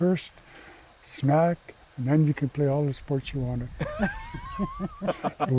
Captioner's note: laughter